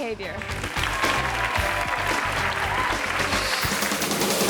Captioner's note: audience applauds